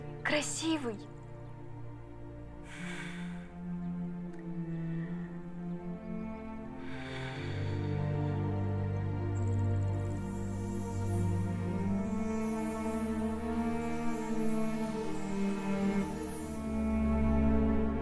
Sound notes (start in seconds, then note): 10.4 sounds of magic